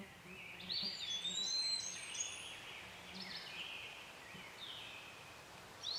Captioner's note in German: Vögel zwitschern, Farne im Sonnenlicht